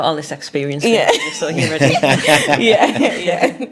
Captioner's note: laughs